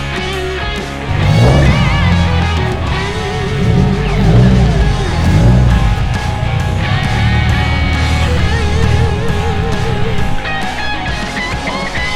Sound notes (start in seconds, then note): 1.0 engine revs